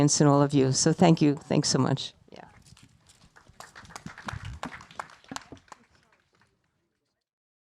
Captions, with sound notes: in all of you, so thank you. Thanks so much, yeah. (audience applauding) (people chattering)